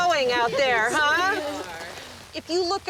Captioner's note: gentle laughter